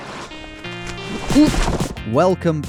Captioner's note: grunting